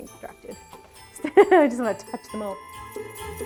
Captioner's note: laughs